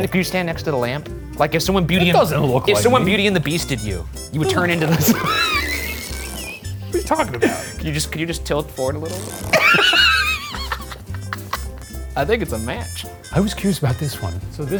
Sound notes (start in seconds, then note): 5.8 back creaks; 9.5 laughs